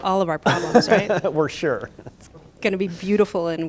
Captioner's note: laughter